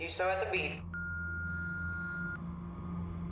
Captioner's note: beep